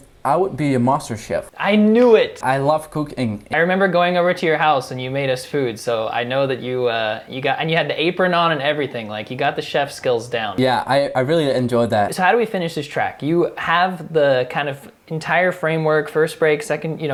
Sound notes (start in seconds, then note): none